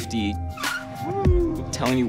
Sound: screeching tires

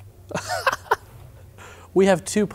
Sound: laughs

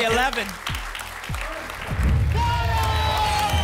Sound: applause; boom; applause and cheering

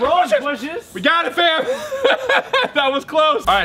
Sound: laughs

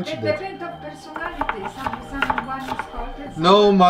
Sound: mom softly explaining

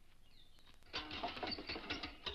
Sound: bike rattles

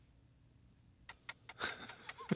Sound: ticking; laughing

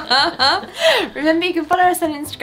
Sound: women laughing

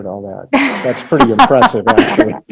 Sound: laughing

